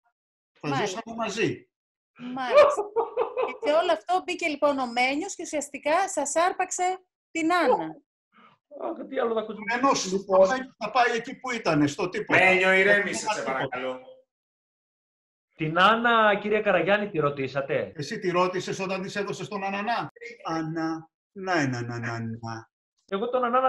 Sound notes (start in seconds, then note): 9.6 laughing